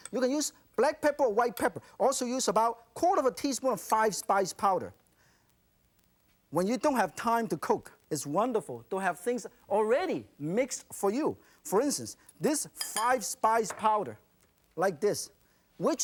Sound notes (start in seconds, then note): none